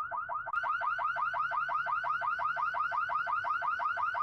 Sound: car alarm blaring

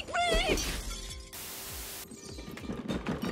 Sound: glass shatters; glass clatters

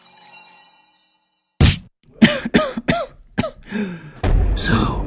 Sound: slapping sound, followed by cough and a gasp of air

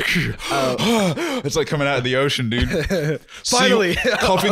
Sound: gasps

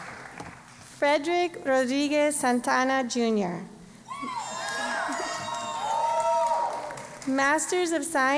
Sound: applause; cheering

